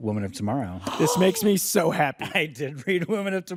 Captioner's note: gasps